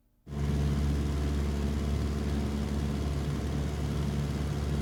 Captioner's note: plane engines running